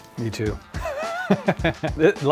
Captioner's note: laughs